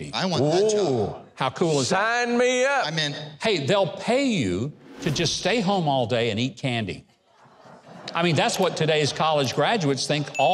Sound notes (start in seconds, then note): 7.3 audience laughing